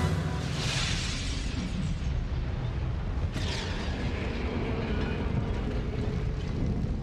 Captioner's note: crackling flames